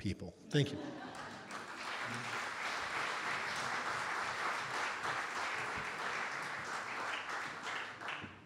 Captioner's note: audience Laughter and Applause